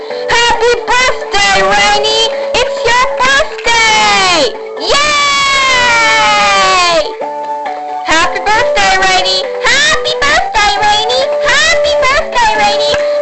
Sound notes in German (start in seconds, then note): 4.8 Alle jubeln